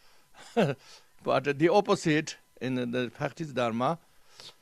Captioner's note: laughs